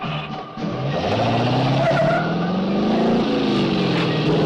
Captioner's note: engine cranks; engine revving